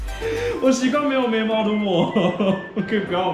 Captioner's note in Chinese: 苦笑